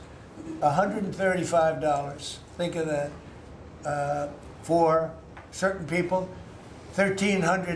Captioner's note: laughter